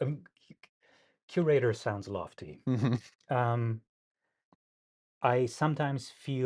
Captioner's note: laughs